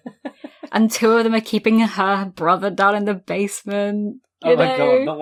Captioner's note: laughs